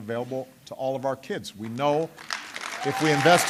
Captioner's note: applause